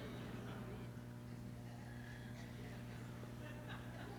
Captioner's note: laughter